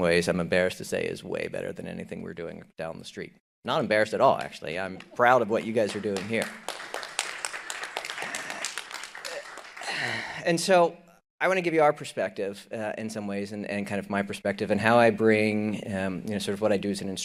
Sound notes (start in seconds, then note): 7.2 audience applauding